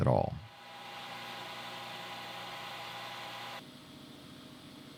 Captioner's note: machine humming